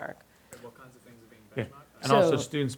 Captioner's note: voiceover